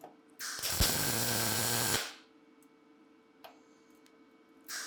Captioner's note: sparks hissing